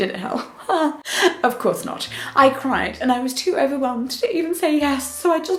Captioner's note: chuckles; laughs